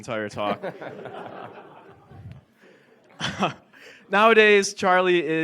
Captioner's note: audience laughs